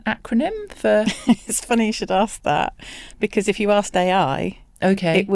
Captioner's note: chuckles